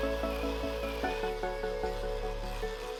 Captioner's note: drilling